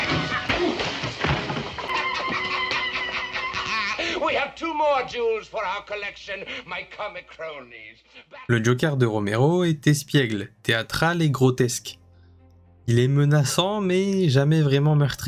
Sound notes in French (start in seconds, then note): 7.5 rires